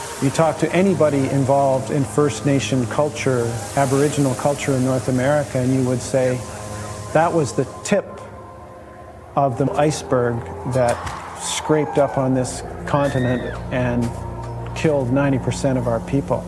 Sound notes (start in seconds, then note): 10.8 people screaming, chopping sound